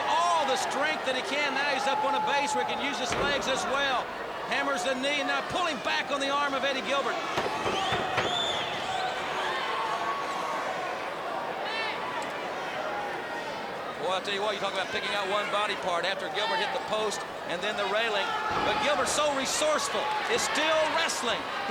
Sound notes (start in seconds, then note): 12.0 crowd cheering